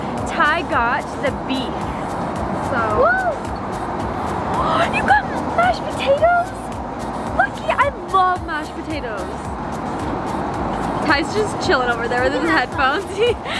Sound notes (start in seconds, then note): 12.9 laughs